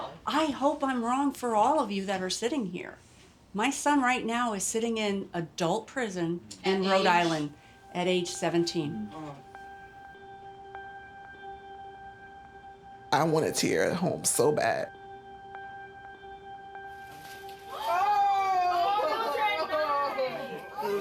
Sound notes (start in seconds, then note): 13.6 voice breaking